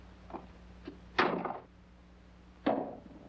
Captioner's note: door closes